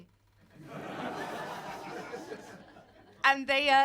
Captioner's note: audience laughing